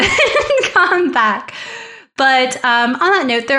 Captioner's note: laughs